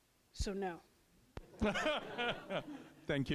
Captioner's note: laughter